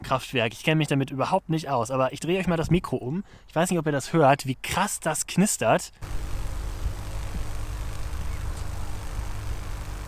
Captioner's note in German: lautes knistern